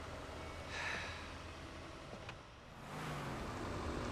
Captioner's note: sighs